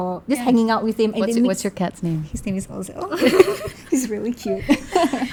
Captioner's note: laugh